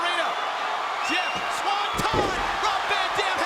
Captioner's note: mat thumping